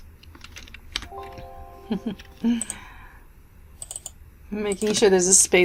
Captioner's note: computer dings